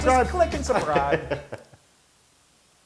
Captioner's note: laugh